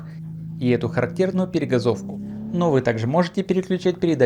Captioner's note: throttle blip